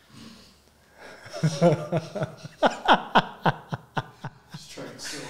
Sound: laughing in room

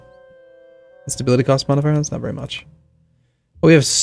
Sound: muttered

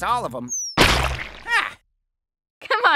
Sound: whack

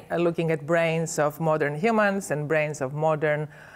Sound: none

